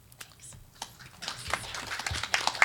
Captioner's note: audience applauds